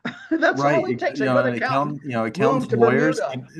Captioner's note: laugh